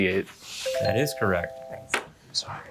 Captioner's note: bell ringing